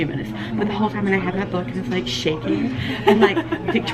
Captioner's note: laughing